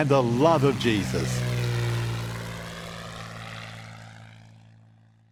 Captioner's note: plane engine whirring